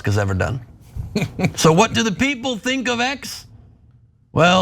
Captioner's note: laugh